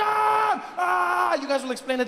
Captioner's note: Trevor screams